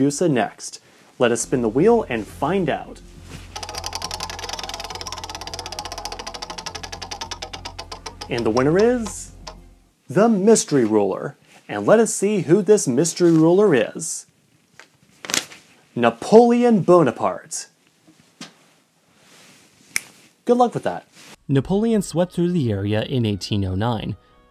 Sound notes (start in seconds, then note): 5.9 suspenseful music; 16.5 snaps fingers